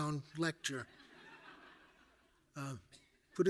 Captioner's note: audience laughing